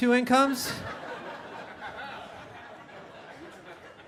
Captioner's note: audience laughing